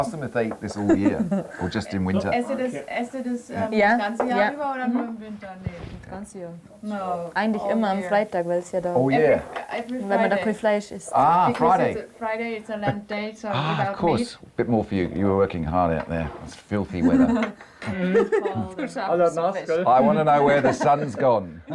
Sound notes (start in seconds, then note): 2.9 speaks German